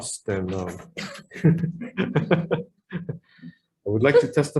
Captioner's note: laughs